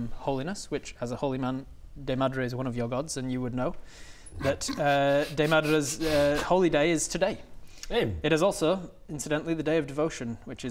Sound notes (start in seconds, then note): 4.4 snickering